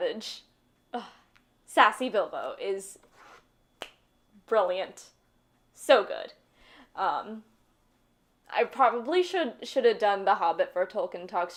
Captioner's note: clap